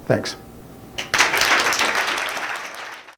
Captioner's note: applause